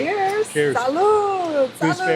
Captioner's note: in Spanish